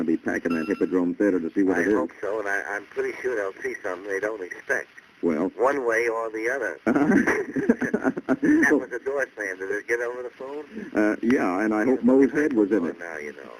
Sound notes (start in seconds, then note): 2.1 on phone; 5.3 on phone; 6.8 laughs; 7.6 on phone; 11.0 on phone; 13.3 on phone